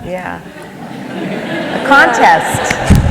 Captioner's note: laughter